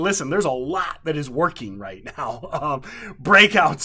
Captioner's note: chuckling